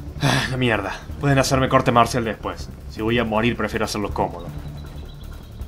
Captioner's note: sigh